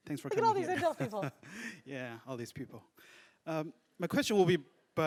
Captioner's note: laugh